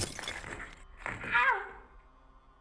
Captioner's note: glass crunching